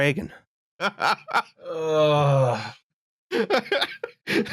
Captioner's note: chuckles; laughs; laughs